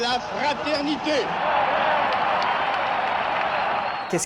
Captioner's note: cheers